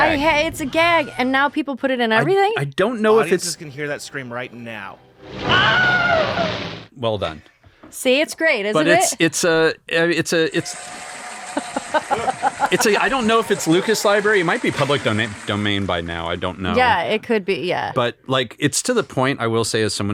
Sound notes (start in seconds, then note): 5.3 Wilhelm scream; 11.6 cheers